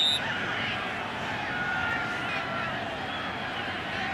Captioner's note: whistle